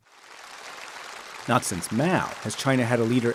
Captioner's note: audience applauding